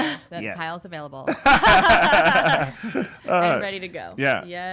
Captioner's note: all laughing